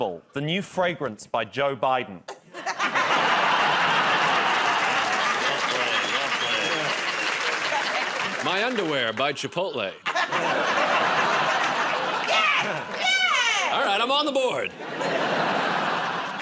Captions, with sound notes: -Unforgettable, the new fragrance by Joe Biden. [ Laughter, applause ] -Well played, well played. -My Underwear, by Chipotle. [ Laughter ] -Yes! Yes! -Alright. I'm on the board.